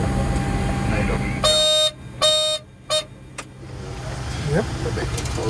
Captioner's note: high beeps